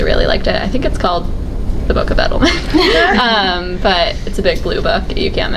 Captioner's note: laughs